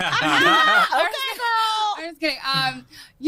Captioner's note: laughing